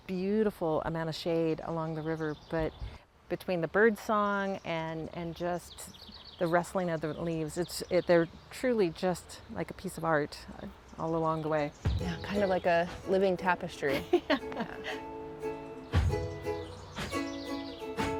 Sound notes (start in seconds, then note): 13.9 laughs; 15.1 light upbeat music